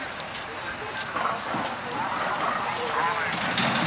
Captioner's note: demolition equipment sounds